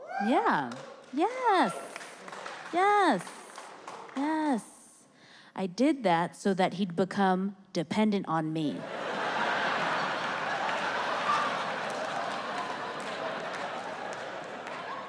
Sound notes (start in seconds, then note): 0.6 audience clapping; 8.8 audience laughing